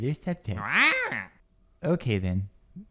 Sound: squawks

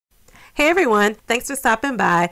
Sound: woman Speaking

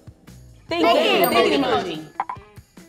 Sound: bell dings

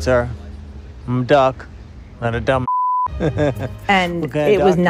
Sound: laughter

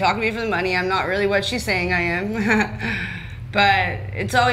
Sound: chuckles

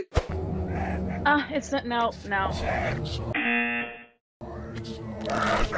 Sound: buzzer rings

